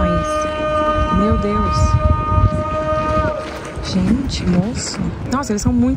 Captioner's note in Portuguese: homem gritando; homem continua gritando